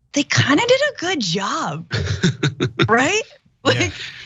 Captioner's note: laugh